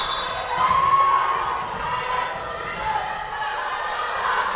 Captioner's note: whistle blowing